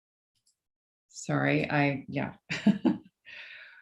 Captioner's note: laughs